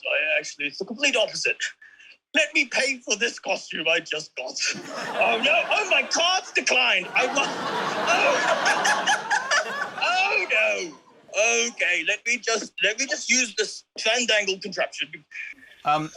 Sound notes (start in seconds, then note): 6.9 laughs; 7.0 laughter